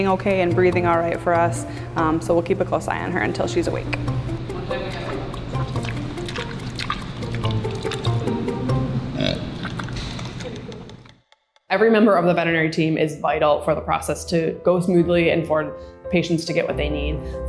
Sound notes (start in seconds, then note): 4.9 Violet chews; 9.1 oinks